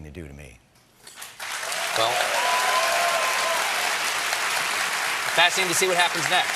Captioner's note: cheers and applause